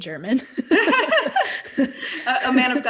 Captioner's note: laughing